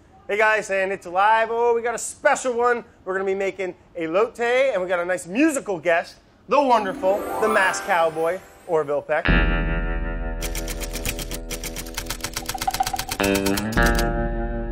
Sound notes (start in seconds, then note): 9.6 country twang